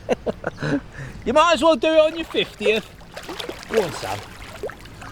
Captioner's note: laughing; laughing